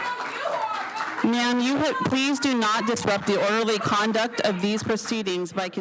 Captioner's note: applause